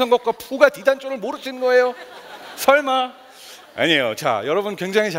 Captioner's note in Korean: 웃음